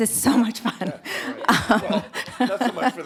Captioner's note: laughs